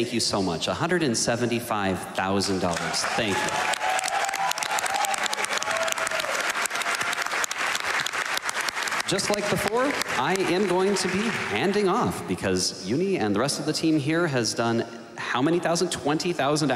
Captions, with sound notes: you so much. $175,000. Thank you. [APPLAUSE] Just like before, I am going to be handing off, because euni and the rest of the team here has done how many thousand, 20,000